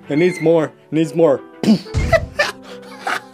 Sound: explosion

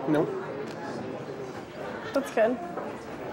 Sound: people chattering

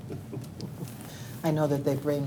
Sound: chuckles

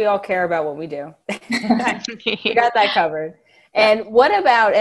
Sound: laughing

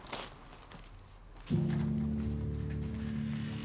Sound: feet thudding; solemn music; door creaks

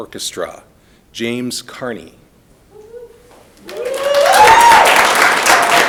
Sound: audience applauding

